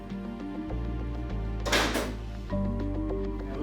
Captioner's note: door clanks